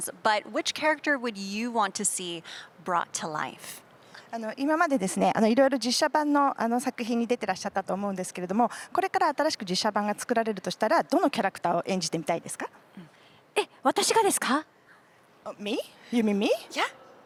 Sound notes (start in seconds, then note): 4.3 interpreter’s translating in Japanese